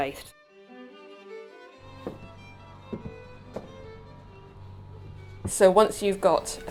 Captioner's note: gentle classical music; footsteps thudding